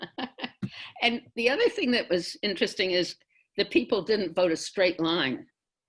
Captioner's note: laughs